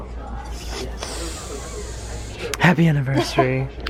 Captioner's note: sniffs; laughs